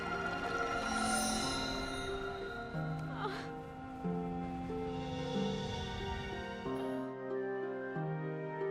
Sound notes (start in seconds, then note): 2.8 sobbing; 6.6 groaning